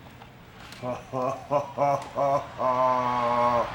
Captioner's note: chuckling